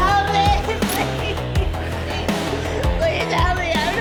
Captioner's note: sobbing